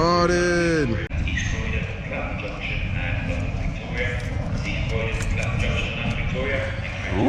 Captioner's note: station announcer speaking faintly